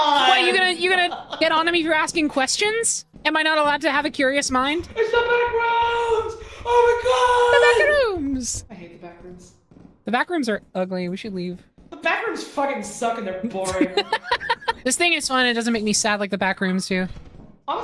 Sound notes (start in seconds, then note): 0.3 laughs; 5.3 gasps; 13.6 laughs